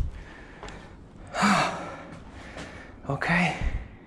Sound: exhales

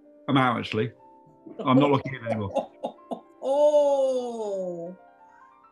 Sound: chortling

